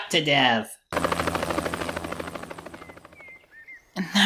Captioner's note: fading helicopter whirring sound